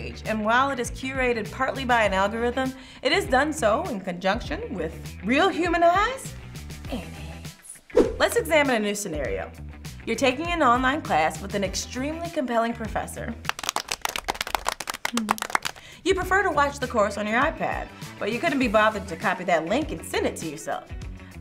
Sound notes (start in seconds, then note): 13.4 applauding